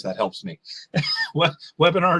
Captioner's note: giggles